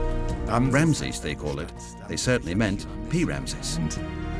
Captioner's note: in German